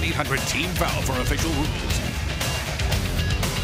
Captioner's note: crowd cheering